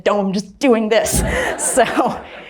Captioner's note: crowd laughing